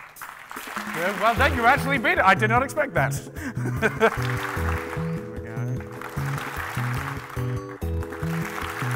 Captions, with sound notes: You actually beat it, I did not expect that. (clapping)